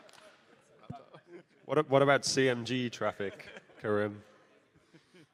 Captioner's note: laughter